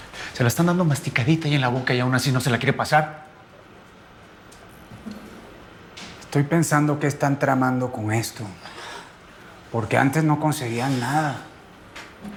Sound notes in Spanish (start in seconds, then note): none